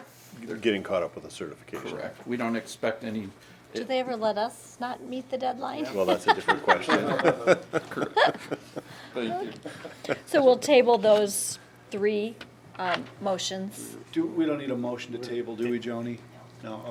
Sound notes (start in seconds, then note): 5.8 laughing; 7.7 some board members laughing